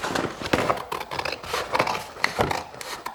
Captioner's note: cutting sounds